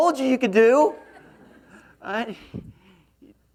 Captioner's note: laughs